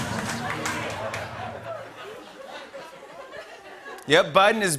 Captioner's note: laughter